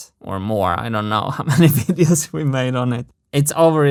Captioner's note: chuckles